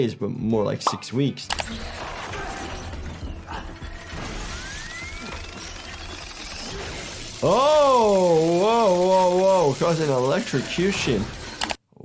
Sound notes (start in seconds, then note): 1.7 mechanical whirring; 6.6 electrical zapping